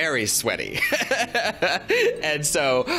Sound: laughs

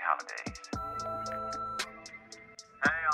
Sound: answering machine beep

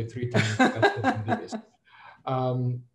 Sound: laughs

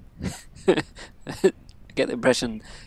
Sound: laughs

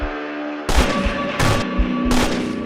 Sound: bang

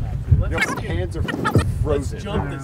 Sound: beep

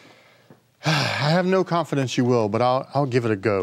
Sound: sighing

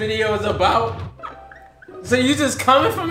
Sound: laughs

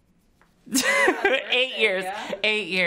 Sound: laughs

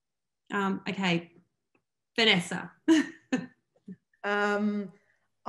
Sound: laughs

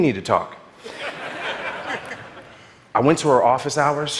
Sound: audience laughing

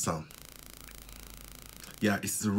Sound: clicking

